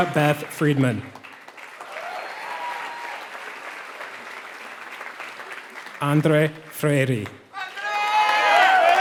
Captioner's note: applause